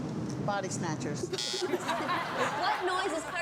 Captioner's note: buzzer